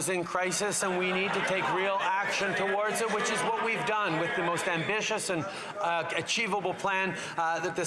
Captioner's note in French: voix de l'interprète